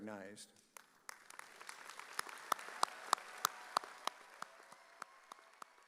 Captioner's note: audience cheering